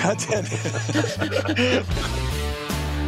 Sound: laughter

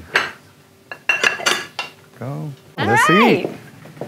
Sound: clinking

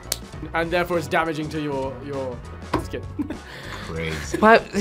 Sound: laughs

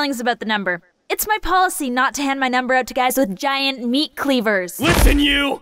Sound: giant meat cleavers

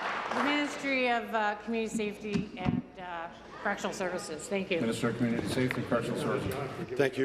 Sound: applause

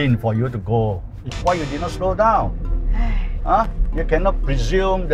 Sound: sighs

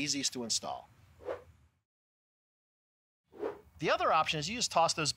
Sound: screen whooshing

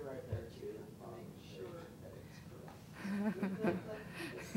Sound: laughing

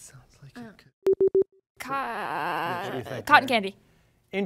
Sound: device beeps

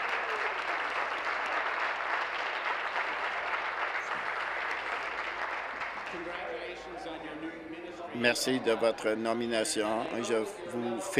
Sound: applause

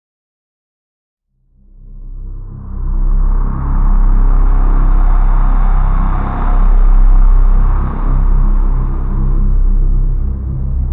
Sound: sound of drone

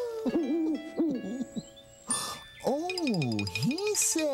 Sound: hoo hoo

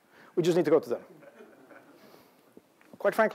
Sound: laughter

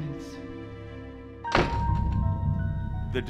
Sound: door slam

